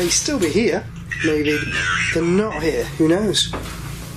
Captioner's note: Ovilus speaking